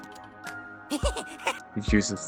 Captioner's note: clink click